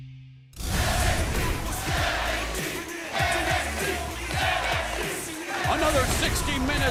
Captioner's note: fans chanting